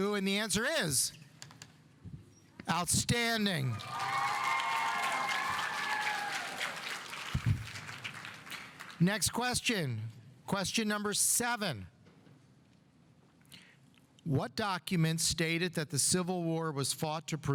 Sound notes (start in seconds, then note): 3.6 audience cheering; 3.7 audience applauding